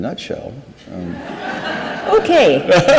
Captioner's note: audience laughs; laughs